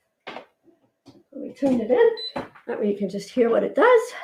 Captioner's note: beeps